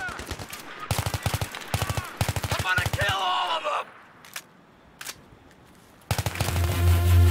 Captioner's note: shooting